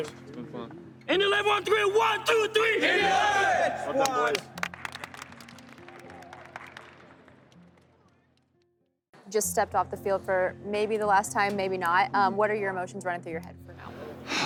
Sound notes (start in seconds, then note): 3.9 clapping; 8.1 team claps